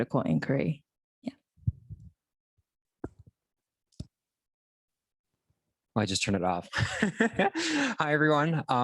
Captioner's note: laughter